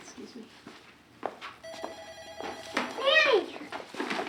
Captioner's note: phone ringing